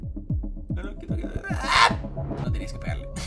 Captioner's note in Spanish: Grita